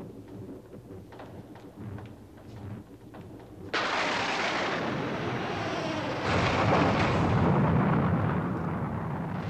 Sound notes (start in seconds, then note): 3.7 lightning strikes; 5.3 door creaks shut